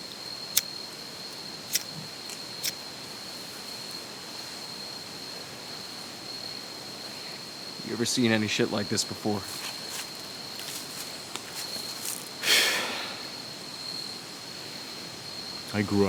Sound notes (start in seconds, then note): 3.1 crickets continue chirping; 12.4 officer sighs